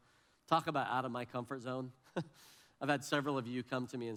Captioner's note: laughs